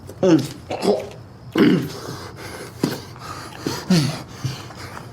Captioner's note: Miles grunts and pants